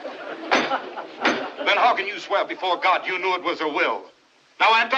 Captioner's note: spectators Laughing; gavel Pounding; shouting